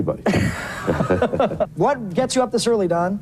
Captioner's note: laughs